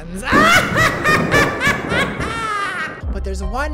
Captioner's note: maniacal laughter